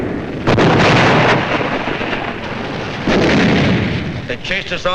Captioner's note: explosions booming